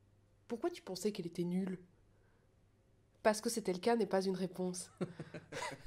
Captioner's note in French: rires